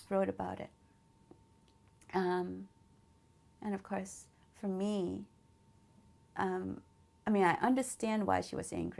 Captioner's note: pauses for 3 seconds